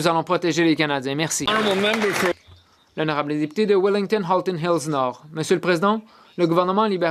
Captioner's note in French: voix de l'interprète